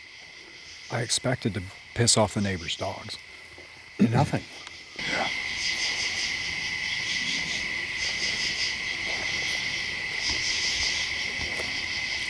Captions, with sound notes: I expected to piss off the neighbor's dogs. - Nothing. (insects chirping)